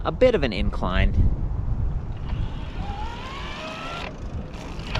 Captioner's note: motor roars